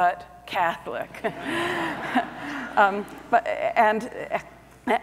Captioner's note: audience laughs